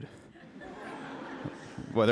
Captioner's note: laughter